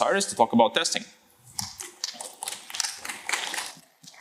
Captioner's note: applause